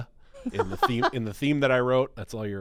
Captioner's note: laughing